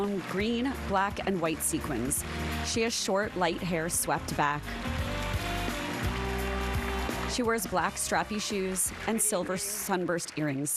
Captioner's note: applause